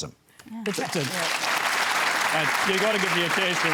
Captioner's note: applause